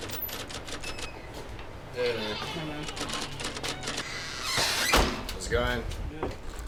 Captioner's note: typewriter tapping; door creaking; door banging